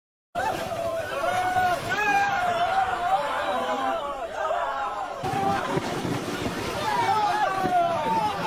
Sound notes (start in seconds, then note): 0.4 soldiers shouting; 0.8 waves splashing